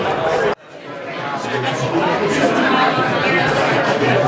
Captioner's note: background chatter